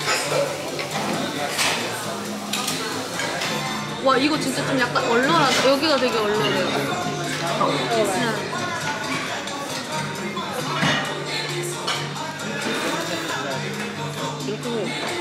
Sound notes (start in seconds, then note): 12.6 slurps